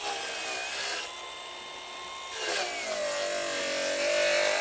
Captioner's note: drilling noise